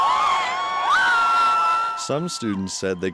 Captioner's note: cheers